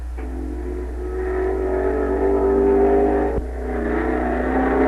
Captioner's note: engines roaring